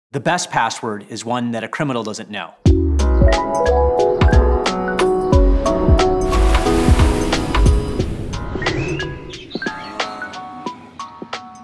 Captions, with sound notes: - The best password is one that a criminal doesn't know. (chipper music) (water spraying) (birds chirping)